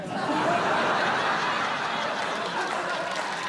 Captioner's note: laughter